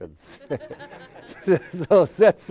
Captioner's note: all laughing